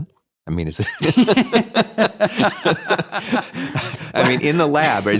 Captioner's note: both laughing